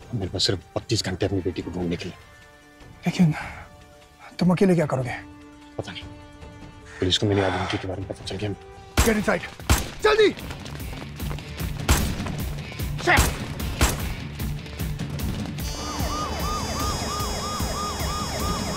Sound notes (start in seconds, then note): 9.5 bullet firing; 13.1 bullets firing; 15.6 siren wailing